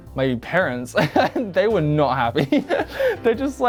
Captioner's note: laughs